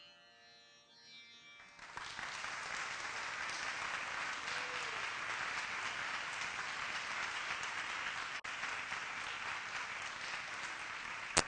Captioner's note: applause